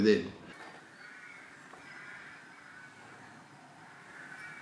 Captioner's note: birds cawing